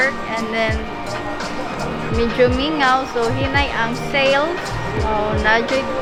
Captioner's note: employee speaks foreign language